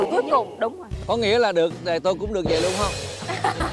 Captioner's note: laugh